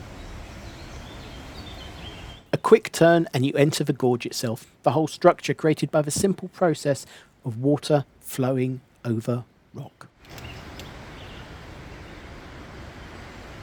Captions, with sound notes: A quick turn and you enter the gorge itself, the whole structure created by the simple process of water flowing over rock. [SOUND OF RUSHING WATER]